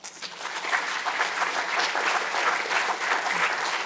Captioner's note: crowd clapping